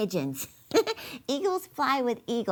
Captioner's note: laughing